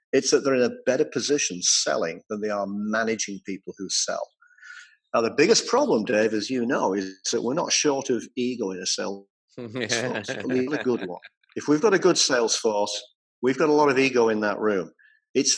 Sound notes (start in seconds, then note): 9.6 laugh covers voice; 9.6 laughing